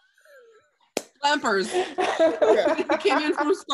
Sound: laughing

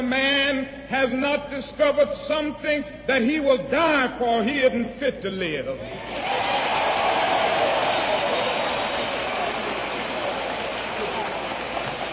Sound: applause

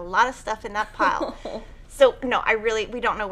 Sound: chuckling

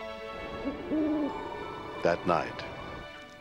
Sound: owl hoots

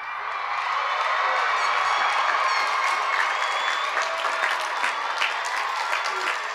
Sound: cheers and applause

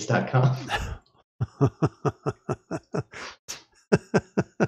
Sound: laughter

